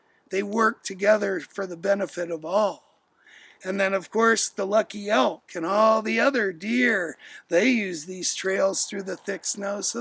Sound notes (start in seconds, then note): none